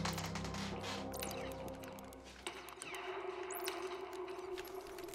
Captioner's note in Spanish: ruido de los videojuegos